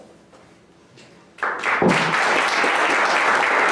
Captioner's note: applause